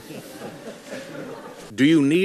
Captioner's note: audience laughs